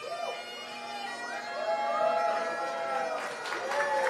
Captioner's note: cheering